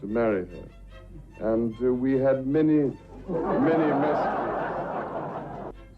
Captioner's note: audience laughs